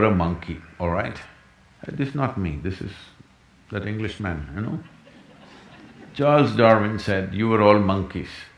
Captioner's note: few laugh